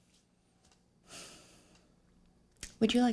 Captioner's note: sighs